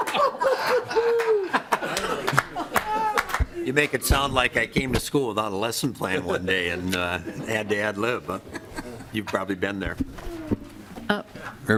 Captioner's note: laughing